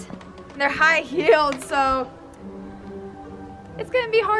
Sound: chuckles

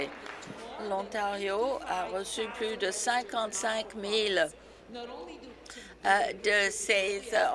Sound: applause

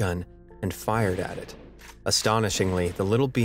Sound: gun firing

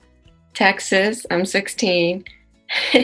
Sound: laughs

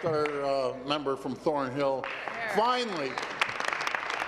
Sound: applause

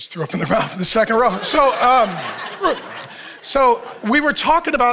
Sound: audience laughs

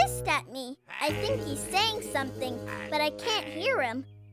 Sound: mumbling and grumbling

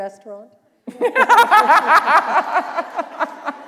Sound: laughter

